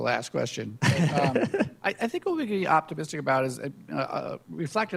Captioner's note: laughs